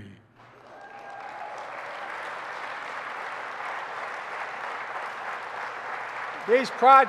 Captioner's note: applause